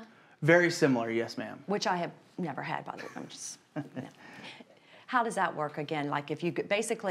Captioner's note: laughs